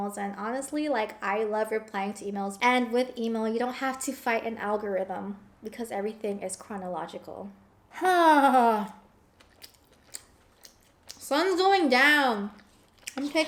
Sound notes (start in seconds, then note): 7.9 sighs; 9.3 chewing